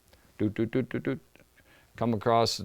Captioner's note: hums rhythmically